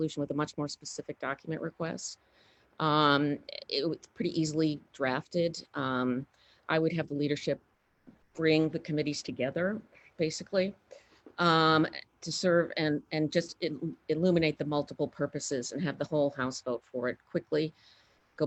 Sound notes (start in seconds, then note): none